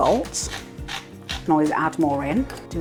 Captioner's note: salt mill grinding